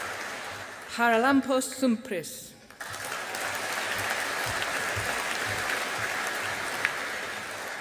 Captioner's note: audience applauding